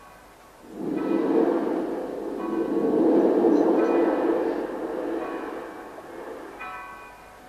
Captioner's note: shri mataji blows into the mic